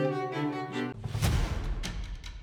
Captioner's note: classical music; intense music; loud banging